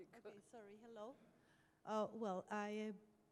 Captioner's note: voiceover